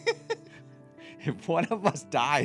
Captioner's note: laughing